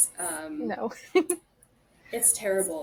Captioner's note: laughs